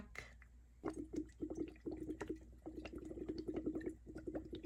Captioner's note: water gurgles